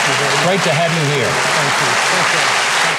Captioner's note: audience applauding